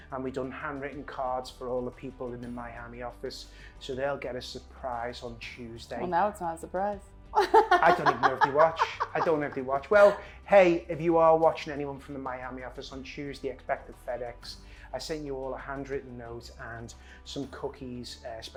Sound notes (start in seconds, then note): 7.4 laughs